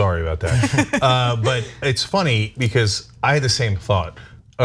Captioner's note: laugh